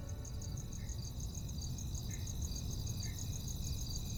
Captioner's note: crickets chirp